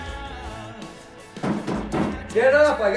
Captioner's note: pounding on door